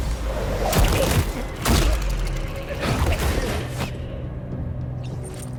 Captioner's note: attacks thudding